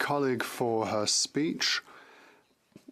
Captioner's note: speaking French